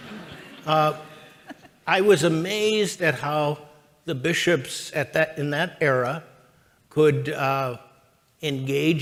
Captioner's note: chuckles